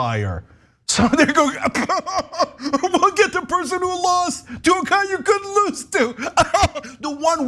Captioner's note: laugh